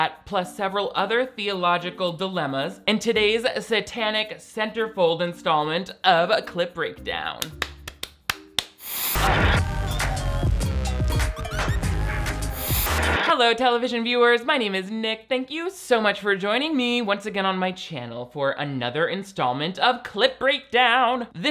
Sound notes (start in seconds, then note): 7.4 hands clapping; 10.1 bright music